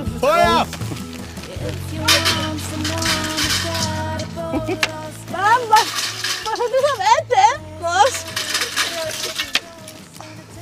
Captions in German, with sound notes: Feuer! (Klappern) Komm. Machst du das Essen, Ross? (Hoffnungsvolle Musik)